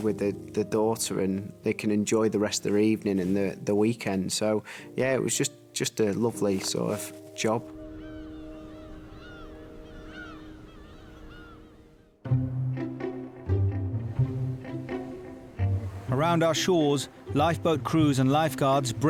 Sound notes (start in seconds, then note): 8.2 birds chirping; 12.3 upbeat music